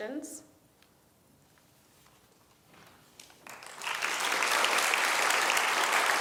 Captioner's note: applause